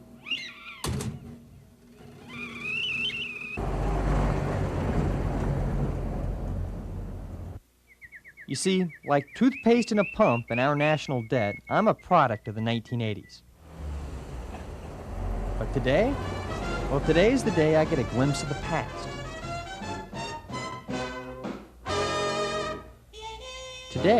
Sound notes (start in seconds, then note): 0.2 tea kettle whistling; 3.4 car rumbling; 7.8 birds singing; 16.1 cheerful swing music; 20.0 cheerful swing music continues